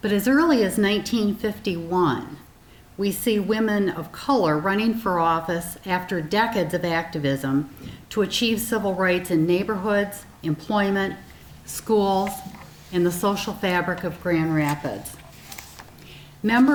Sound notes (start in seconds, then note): none